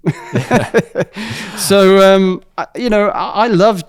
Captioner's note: laughs